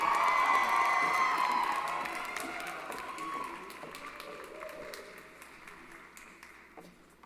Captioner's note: applause & Cheering